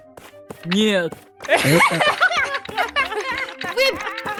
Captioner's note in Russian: Скелеты смеются и гремят костями